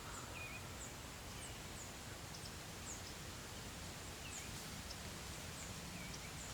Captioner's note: birds chirping